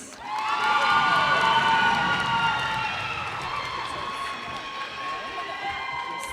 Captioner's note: cheers and applause